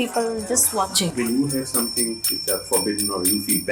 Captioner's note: bells jingling